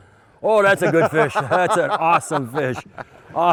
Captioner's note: laughing